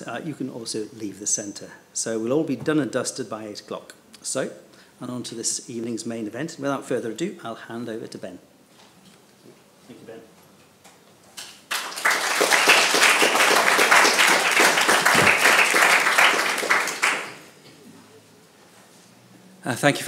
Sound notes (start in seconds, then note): 11.3 participants clapping